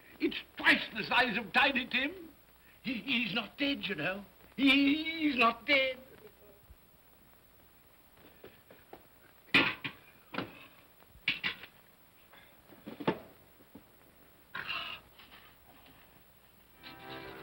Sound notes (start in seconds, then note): 9.4 cup sets down hard; 16.8 music plays outside